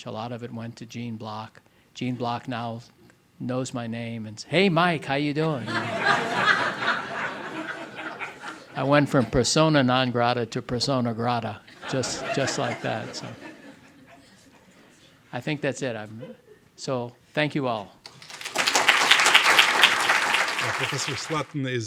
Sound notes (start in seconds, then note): 4.8 audience laughing; 18.0 audience applauding